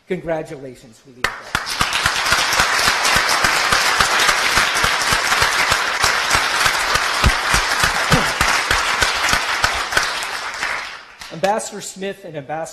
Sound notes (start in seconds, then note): 1.2 applause